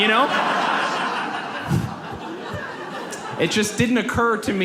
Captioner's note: audience laughs